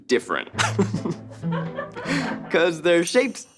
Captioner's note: laughs